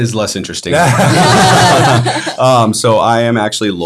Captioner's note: all laughing